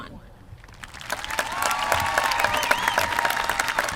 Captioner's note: applause